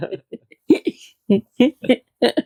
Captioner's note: laughter